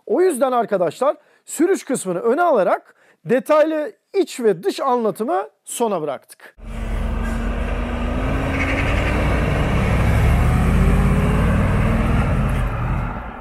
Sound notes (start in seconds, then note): 6.6 vehicle sound